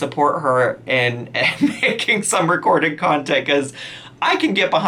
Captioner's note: laughs